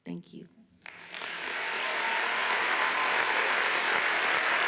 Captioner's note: audience applauds